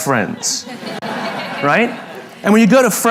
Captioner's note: La audiencia se ríe